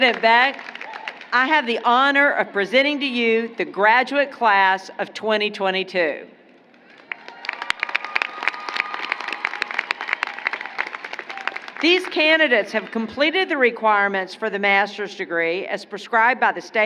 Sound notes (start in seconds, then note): 8.6 applause